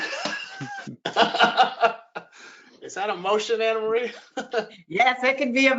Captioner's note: laughter